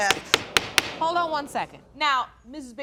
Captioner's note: gavel banging